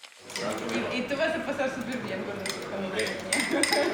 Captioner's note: woman speaking Spanish; chuckles